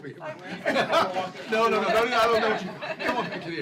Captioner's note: laughter